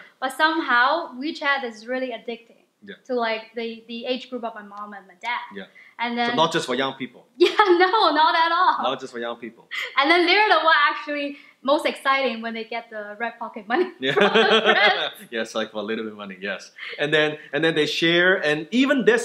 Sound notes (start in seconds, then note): 14.0 laughing